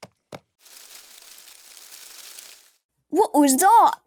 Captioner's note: leaves rustling